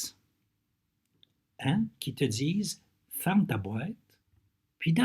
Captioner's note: translating in French